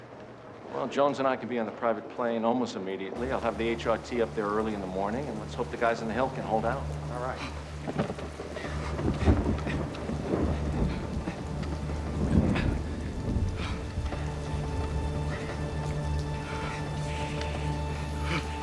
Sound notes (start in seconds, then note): 7.8 thunder rumbling; 12.3 men panting